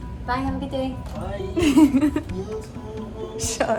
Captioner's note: giggles